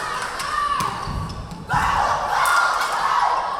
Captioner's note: chanting